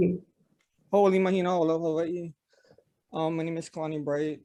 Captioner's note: speaks in foreign language